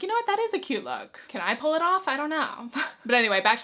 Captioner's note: chuckles